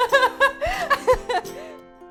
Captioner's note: laughter